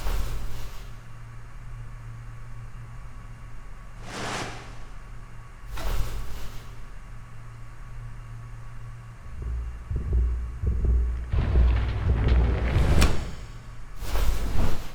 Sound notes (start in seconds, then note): 9.3 voices blending with those of others and little Rosh